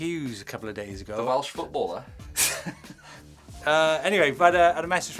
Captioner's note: laughs